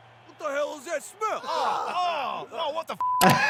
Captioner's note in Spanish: gente gruñendo